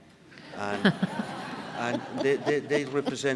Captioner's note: audience laughing